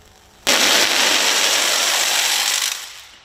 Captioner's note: crackling whir